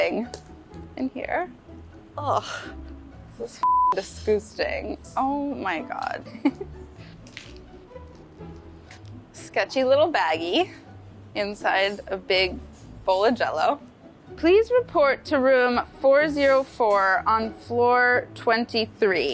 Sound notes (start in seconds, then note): 0.2 melodic music; 6.3 laughs